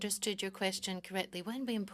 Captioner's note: speaking French